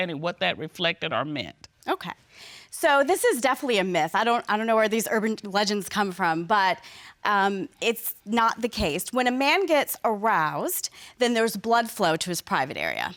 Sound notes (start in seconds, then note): none